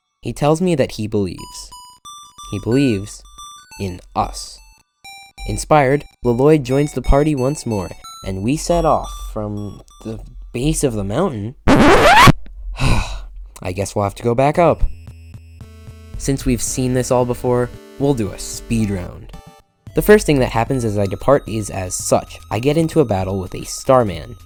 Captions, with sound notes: He tells me that he believes. He believes in us. Inspired, Llloyd joins the party once more, and we set off from... the base of the mountain?! *ANOTHER OBNOXIOUS RECORD SCRATCH* *sigh* I guess we’ll have to go back up. Since we’ve seen this before, we’ll do a speed round. The first thing that happens as I depart is as such. I get into a battle with a Starman.